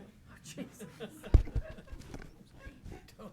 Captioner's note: all chuckling